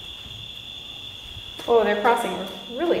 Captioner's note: crickets chirping